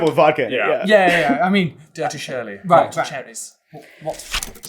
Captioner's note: accented